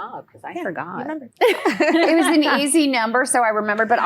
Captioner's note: laughing